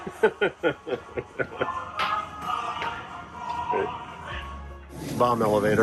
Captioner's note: chuckling; ceruminous military music